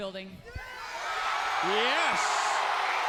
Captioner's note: audience cheering